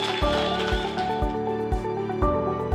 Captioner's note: applause